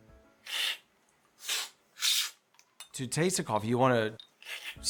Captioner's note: slurping